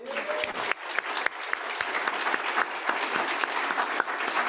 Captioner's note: audience applauding